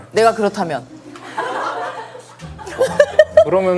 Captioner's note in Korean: 피식